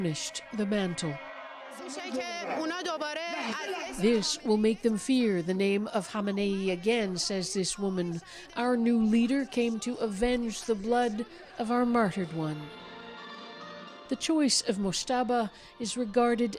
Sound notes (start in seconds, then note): 4.6 speaking alternate language